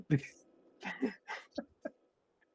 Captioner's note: laughs